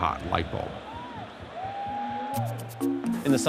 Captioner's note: audience cheering